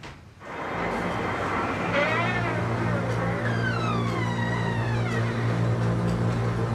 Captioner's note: door creaks; ominous music